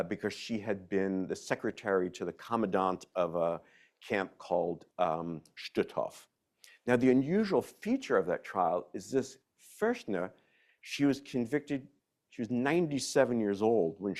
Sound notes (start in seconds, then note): 4.0 speaks in foreign language